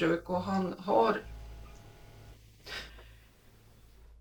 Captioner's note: refrigerator hum